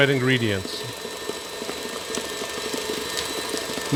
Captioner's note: mixer whirring